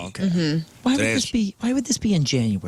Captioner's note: none